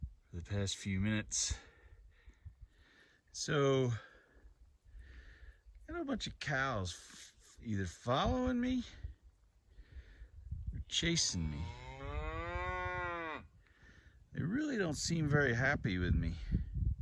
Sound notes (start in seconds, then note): 11.5 cow moos; 16.9 light wind noise